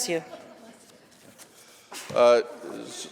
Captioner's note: sneezing